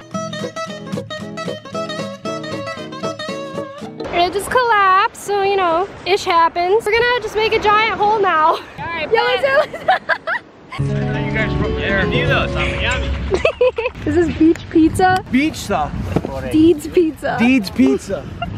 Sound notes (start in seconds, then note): 0.1 upbeat music; 10.8 laughs; 11.8 speaking foreign language; 13.3 laughing